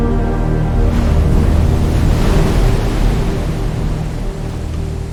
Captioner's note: waves crashing